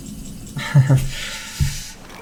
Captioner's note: laughs